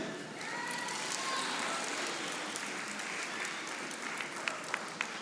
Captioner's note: audience applauding